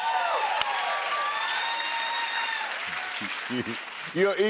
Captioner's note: cheers and applause